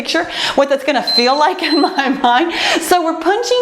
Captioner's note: timer beeps